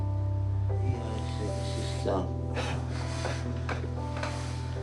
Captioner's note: sobs softly